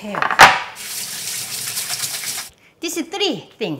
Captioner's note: water running